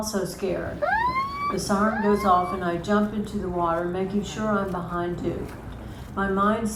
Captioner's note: airhorn blasts